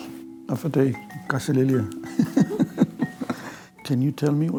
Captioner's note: laughter